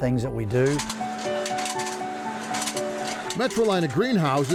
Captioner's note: gentle music; machine whirring